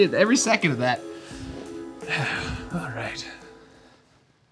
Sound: suspenseful music; sighs

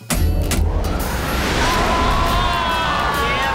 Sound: sighing

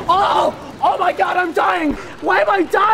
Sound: screaming

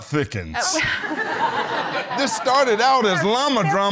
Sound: laughter

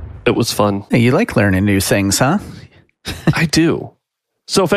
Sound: chuckles

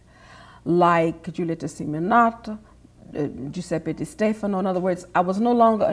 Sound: speaks foreign language

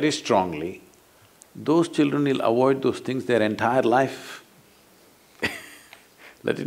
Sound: laughs

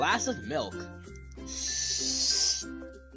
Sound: sipping

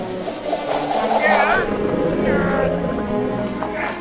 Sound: growling

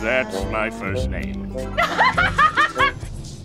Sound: laughing

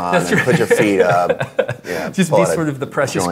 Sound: laughs

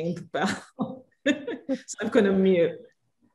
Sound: laughs

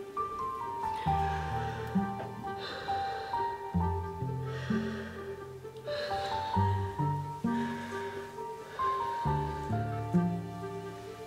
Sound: deep breathing

